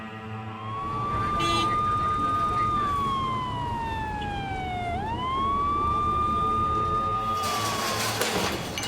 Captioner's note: police Siren